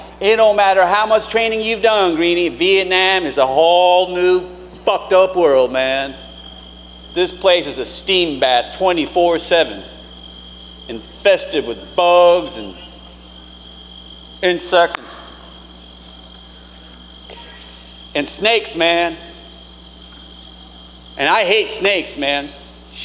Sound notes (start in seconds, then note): 6.6 insects chittering; 14.5 slaps